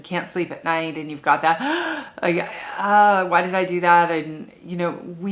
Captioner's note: gasp